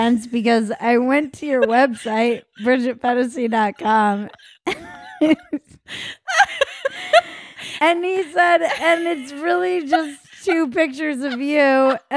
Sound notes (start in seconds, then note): 6.2 laughing